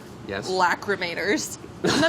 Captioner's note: laughing